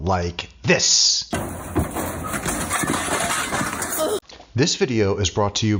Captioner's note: man tripping